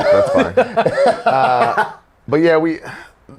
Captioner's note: Zack laughs